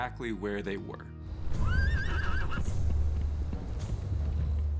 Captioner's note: horses neigh